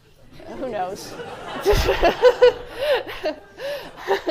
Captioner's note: laughter